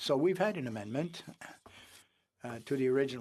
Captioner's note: speaking French